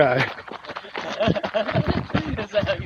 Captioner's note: laughs